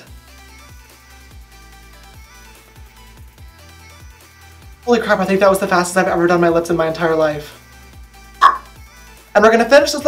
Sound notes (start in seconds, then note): 8.4 tongue noise